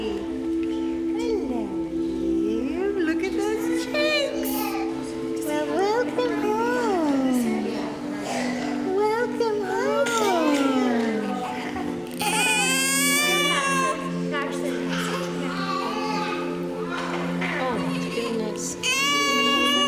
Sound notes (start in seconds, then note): 12.0 baby cries